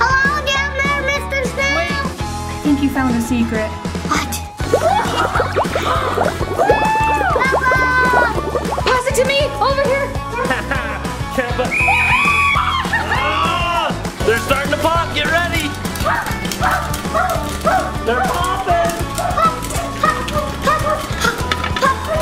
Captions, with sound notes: - Hello down there, Mr. Snail! - I think you found a secret. - What? (mom laughing) Bubbles! - Pass it to me, over here. (whistle ringing) (mom cheering) - They're starting to pop, get ready. They're popping! - Pop, pop, pop, pop, pop, pop.